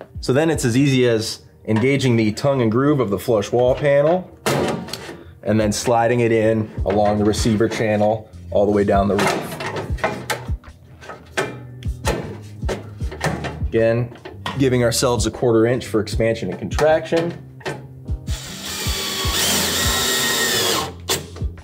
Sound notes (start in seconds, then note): 4.4 metal thuds; 9.0 metal clanks; 9.8 relaxed music; 18.2 drill hums